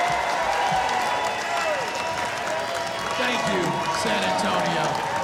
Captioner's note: cheering